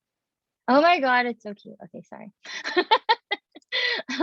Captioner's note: laughing